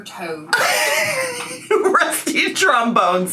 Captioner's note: laughs